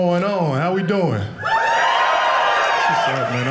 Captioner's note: audience cheering